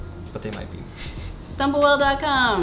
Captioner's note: laughs